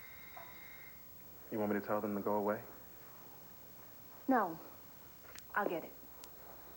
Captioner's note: doorbell rings